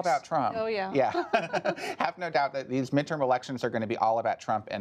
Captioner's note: laughter